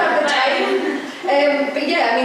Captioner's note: laughter